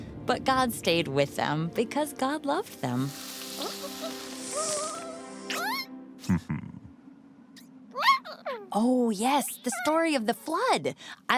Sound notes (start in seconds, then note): 3.5 humming noises